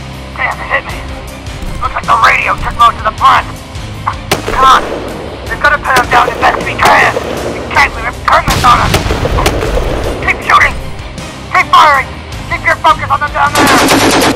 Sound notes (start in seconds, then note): 4.2 gunshot Sounds